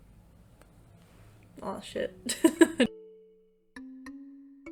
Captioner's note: laughter